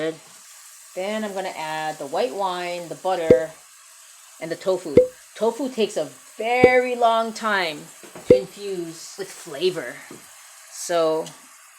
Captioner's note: wine bottle pops